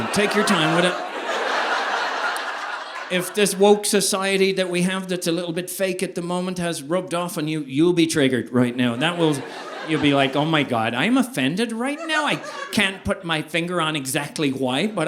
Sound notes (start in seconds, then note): 0.0 audience laughing; 10.4 american Accent